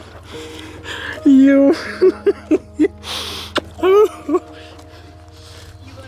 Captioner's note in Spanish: Risas